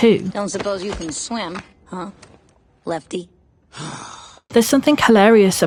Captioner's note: sighs